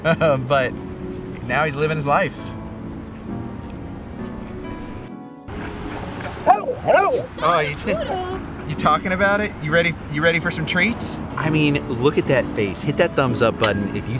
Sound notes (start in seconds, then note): 0.2 laughs; 6.4 Stewart woofs